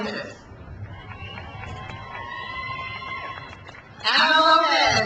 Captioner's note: crowd cheers